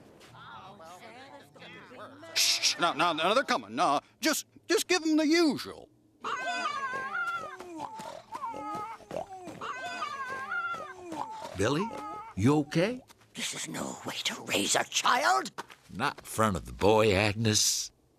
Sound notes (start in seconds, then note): 0.1 animals talking; 6.2 animals making noises; 8.4 running; 9.4 cluck cluck